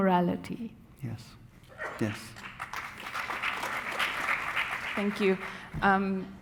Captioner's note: audience applauding